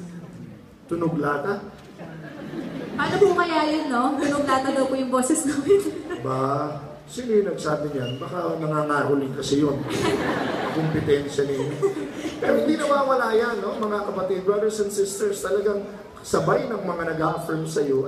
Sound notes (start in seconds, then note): 5.5 laugh